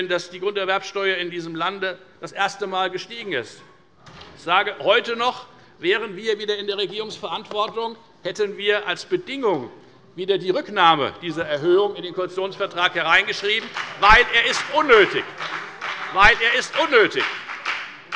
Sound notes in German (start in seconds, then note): 13.1 Beifall bei der FDP